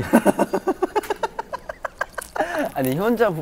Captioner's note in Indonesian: Ngakak sendiri